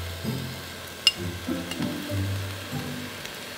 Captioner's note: food sizzling